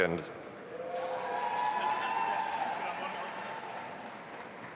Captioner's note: audience applauding